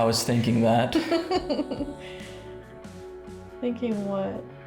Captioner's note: giggling